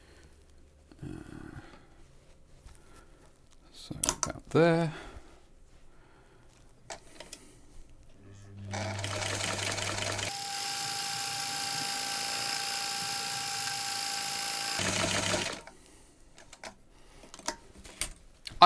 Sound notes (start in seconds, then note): 8.5 sewing machine running